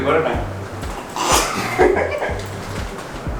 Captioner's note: laughs